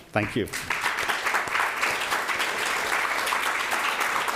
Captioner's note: audience applauds